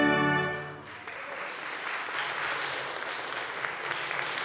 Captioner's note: audience claps